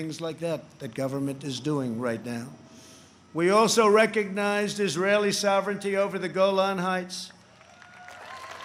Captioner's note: applause